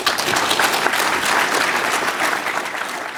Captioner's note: applause